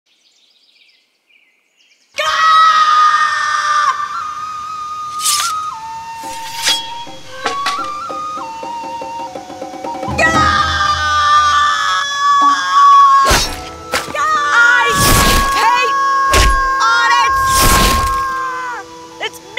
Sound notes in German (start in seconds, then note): 0.3 Vögel rufen; 2.2 schreit; 5.7 dramatische Musik; 10.1 schreit